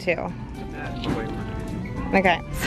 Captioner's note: mumbles